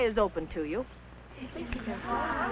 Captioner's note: women chattering